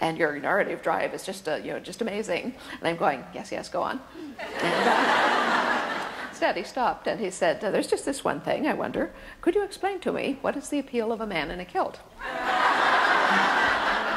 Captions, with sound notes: "and your narrative drive is just amazing." And I'm going, "Yes, yes, go on." (audience laughter) Instead he stopped, and he said, "There's just this one thing, I wonder, "could you explain to me "what is the appeal of a man in a kilt?" (audience laughs loudly)